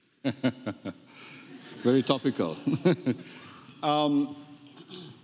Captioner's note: laughs